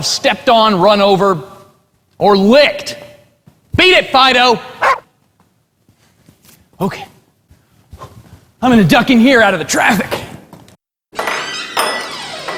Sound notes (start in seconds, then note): 4.8 dog barks; 11.2 bell rings